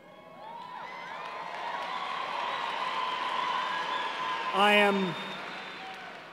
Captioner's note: applause